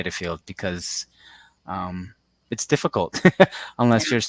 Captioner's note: laughs